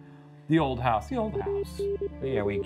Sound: video game screen beeping

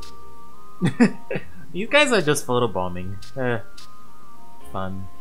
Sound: laughs

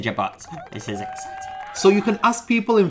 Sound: cheering

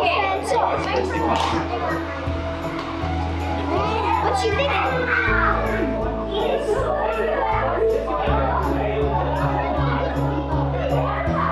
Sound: general chatter

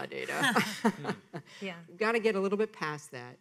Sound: laughing

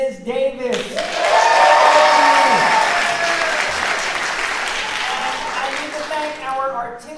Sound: audience clapping

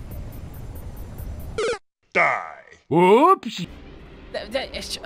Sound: Mario 8-bit death sound

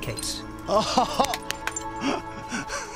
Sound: laughing

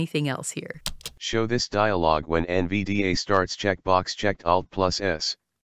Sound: voiceover

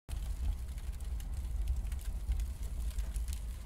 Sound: fire crackling

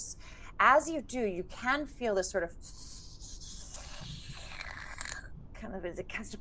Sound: game Master slurping

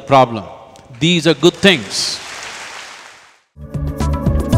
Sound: applause

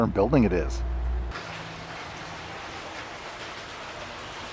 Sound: water babbling

